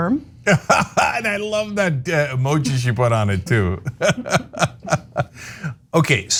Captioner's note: laugh